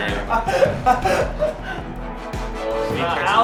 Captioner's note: laughs